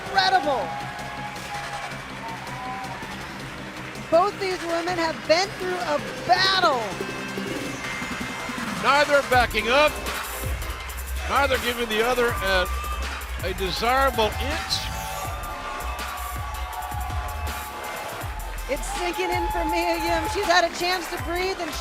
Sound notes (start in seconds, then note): 4.1 cheers and applause